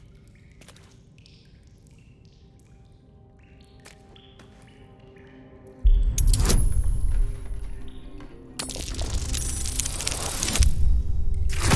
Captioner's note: silence